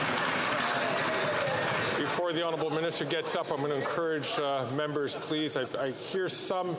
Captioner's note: some Applause